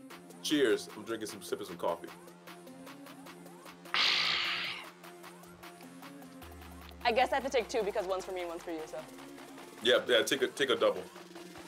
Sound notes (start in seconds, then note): 3.9 exhales sharply